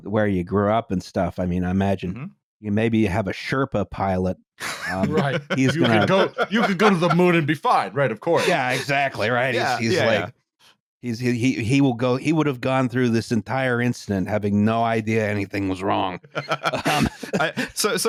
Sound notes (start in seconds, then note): 4.6 laughs; 16.3 laughter